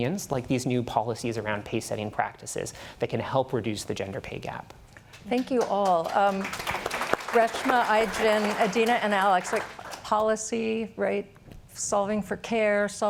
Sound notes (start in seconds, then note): 5.1 applause